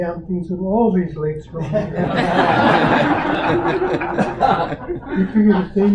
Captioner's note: audience Laughter